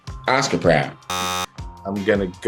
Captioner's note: buzzer